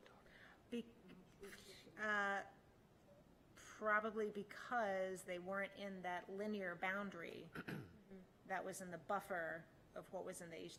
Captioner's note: clears throat